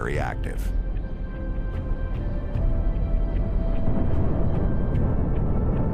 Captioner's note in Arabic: صوت انفجار